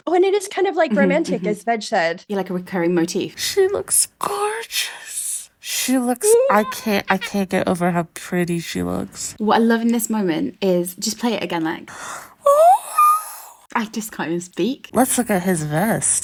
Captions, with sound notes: Oh, and it is kind of like romantic as Veg said. - Like a recurring motif? - She looks gorgeous. She looks, I can't get over how pretty she looks. What I love in this moment is, just play it again, Lech. (excited gasp) - I just can't even speak. - Let's look at his vest.